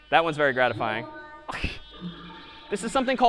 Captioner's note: laughs